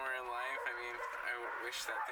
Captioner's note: dog barking in background